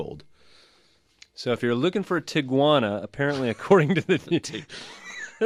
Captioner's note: both laugh